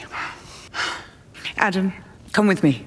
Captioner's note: sighs